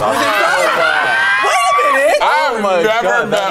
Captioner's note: group shrieking